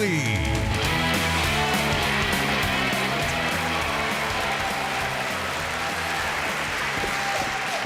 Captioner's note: cheering